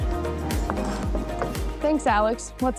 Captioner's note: upbeat music; knife scraping